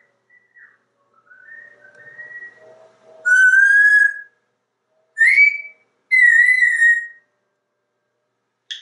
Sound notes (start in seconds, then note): 0.0 whistling again; 2.9 Einstein whistling back